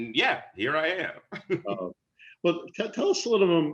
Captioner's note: laughter